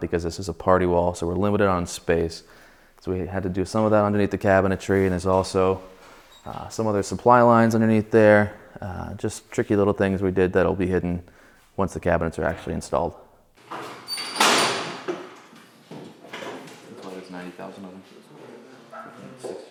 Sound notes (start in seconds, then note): 13.7 scaffolding squeaks